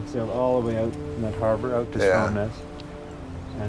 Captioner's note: sound of sheep